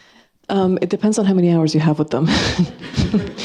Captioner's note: chuckles